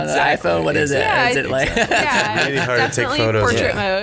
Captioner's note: everyone laughs and talks over each other